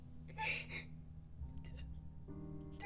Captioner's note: Qi'an sobs